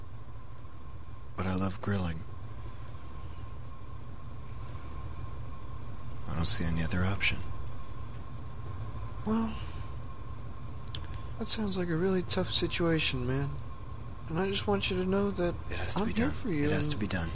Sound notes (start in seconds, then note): 10.8 smacks lips